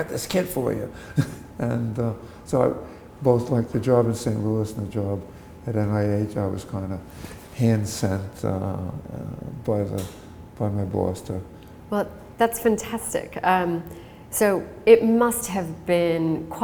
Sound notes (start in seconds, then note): 1.0 chuckle